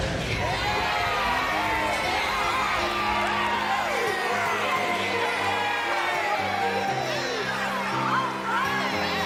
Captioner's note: woosh; cheering